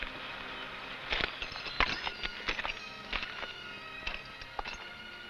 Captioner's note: spurs rattling